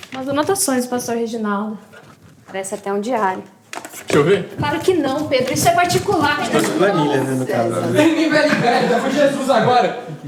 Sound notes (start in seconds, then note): 7.3 conversations in the background